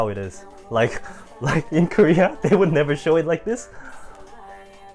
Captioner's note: risada